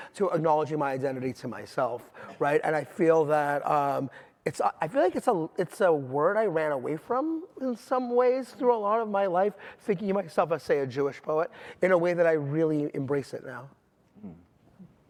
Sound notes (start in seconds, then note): none